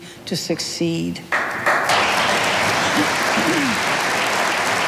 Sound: audience applauding

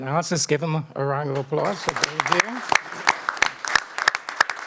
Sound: applause

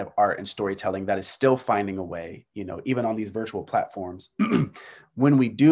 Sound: clears throat

